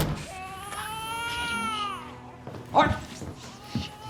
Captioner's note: baby crying